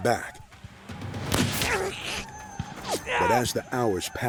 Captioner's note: gunshot